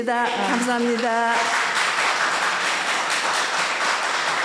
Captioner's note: audience applauding